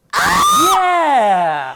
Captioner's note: screaming